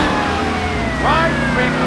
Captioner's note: sirens